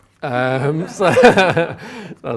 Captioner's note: laughter